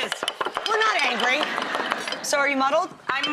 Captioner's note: mild laughter